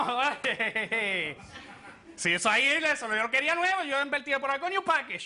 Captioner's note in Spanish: Risas